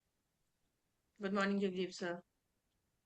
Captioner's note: Hindi